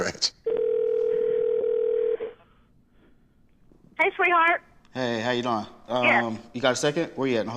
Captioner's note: on phone